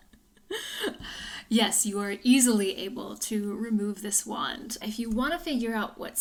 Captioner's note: laughs